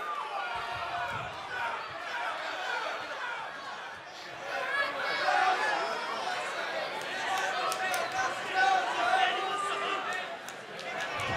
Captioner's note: crowd chatter